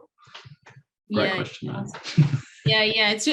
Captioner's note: chuckles